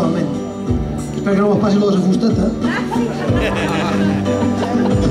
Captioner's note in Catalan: Rialles del públic